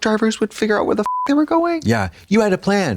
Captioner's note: beep